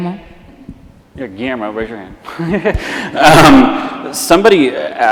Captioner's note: laughs